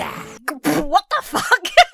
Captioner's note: splutters; laughs